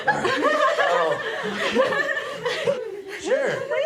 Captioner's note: girls giggling